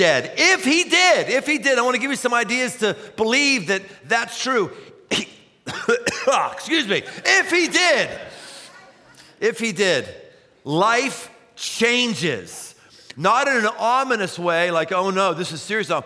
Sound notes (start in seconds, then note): 5.0 coughs